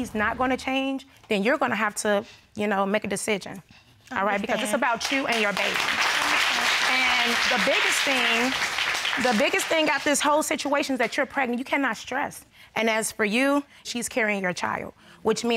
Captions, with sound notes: and he's not going to change, then you're going to have to make a decision. All right? Because this is about you and your baby. (AUDIENCE APPLAUDING) And the biggest thing... The biggest thing about this whole situation is that you're pregnant. You cannot stress. And as for you, she's carrying your child,